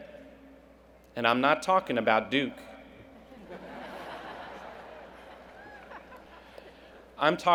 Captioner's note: laughter